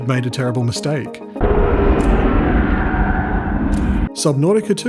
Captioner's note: loud ominous roar